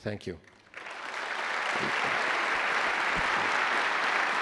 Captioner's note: attendees applause